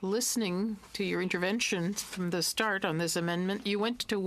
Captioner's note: speaking French